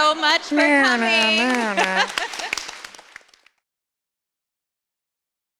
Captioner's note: applause